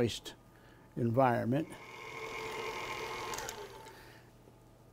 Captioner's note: mixer whirring